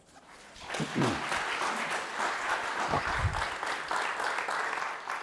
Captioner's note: audience applauding